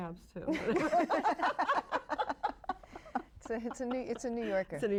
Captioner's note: all laugh